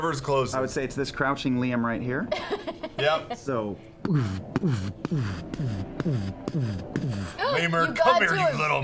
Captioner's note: heavy footstep sounds